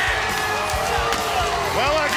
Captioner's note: audience cheers